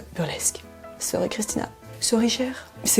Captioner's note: french accent